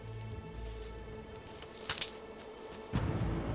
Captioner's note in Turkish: Dal kırılma sesi